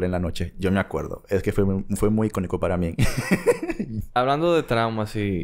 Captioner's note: laughs